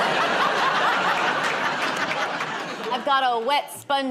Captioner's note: laughter